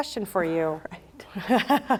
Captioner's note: laughter